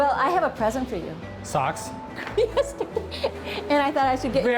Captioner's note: laughs